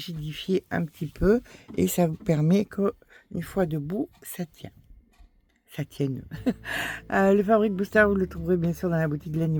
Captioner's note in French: rires